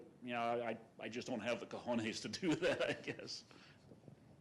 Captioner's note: laughs